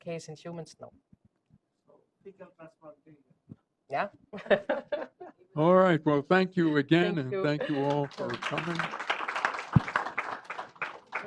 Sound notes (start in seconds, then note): 6.3 laughter; 10.1 applause